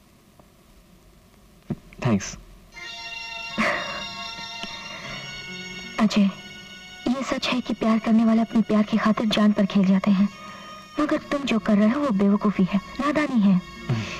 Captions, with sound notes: Thanks. (Chuckles) Ajay, it's true that people in love risk their lives for love.. ..but what you're doing is foolishness and stupidity.